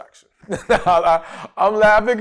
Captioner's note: laughs